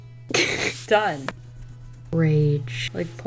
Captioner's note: laughs